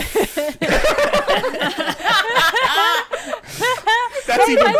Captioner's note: everyone laughing